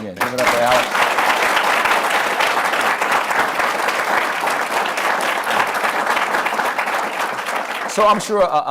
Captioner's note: applause